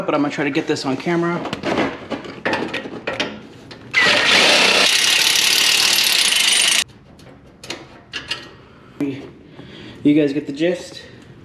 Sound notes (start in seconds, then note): 3.9 electrical drilling